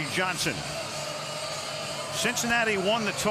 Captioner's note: cheering